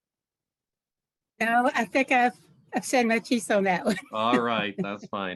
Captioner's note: laughs